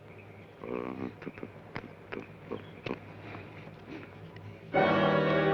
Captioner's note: Joshua hums melodically